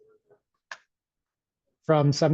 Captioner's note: mouse clicks